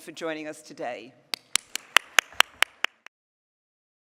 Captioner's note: applause